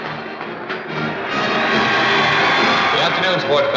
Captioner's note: crowd cheering